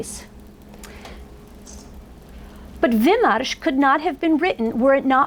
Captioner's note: foreign language